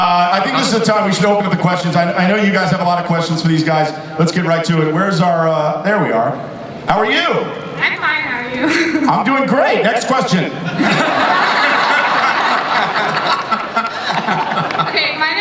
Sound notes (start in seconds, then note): 8.1 voiceover; 10.5 audience and panelists laugh; 15.3 voiceover